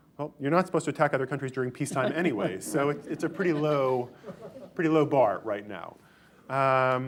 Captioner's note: laughter